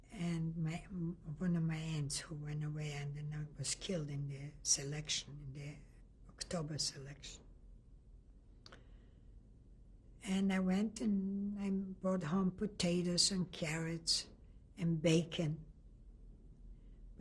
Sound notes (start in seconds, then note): 7.1 pauses for 3 seconds